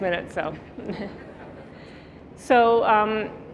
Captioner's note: audience chuckling